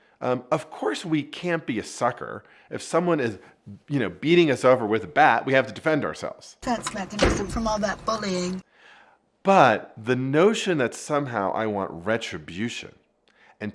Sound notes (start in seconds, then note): 6.7 door slamming